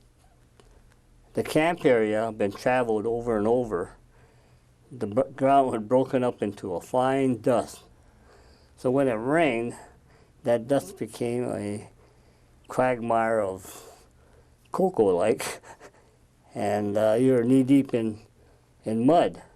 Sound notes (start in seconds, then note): 15.4 laughs